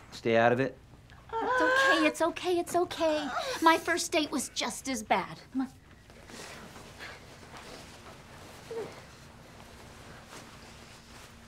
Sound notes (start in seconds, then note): 1.3 whines